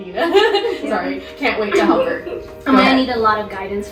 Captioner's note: giggles